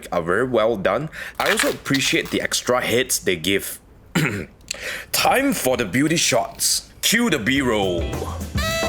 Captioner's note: cough